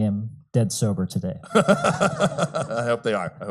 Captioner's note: laughs